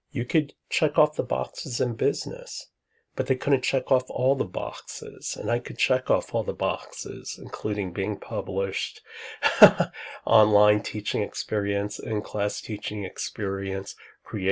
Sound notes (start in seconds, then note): 9.4 laughs